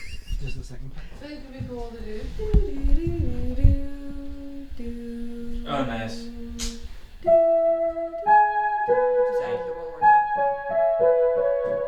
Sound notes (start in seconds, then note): 1.6 speaking faintly; 2.0 hums